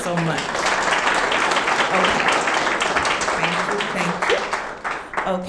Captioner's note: audience clapping